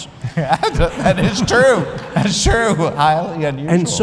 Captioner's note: laughter